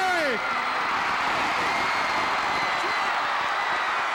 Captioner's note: audience cheering